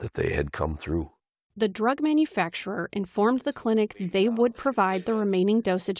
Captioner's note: voice-over